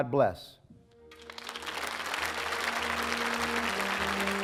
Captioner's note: applause